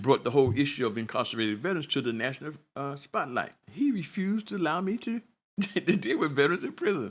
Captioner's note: laughter